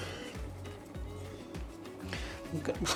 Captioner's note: laugh